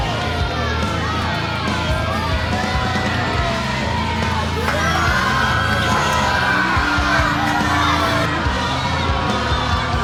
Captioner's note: audience boos